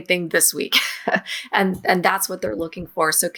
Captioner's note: chuckles